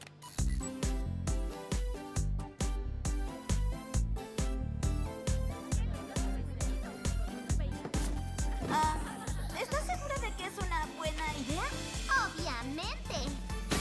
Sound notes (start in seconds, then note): 1.5 dance beat; 5.5 happy chatter